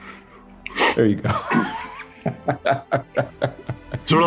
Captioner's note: laughs